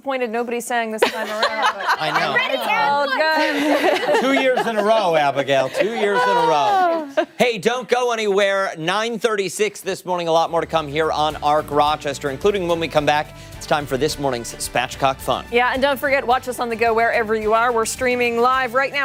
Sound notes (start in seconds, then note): 7.0 laughter